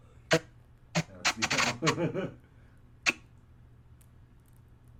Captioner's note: nervous laughter